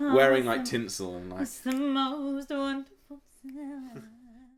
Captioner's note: sing songy voice